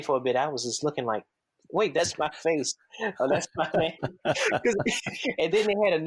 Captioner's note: both laugh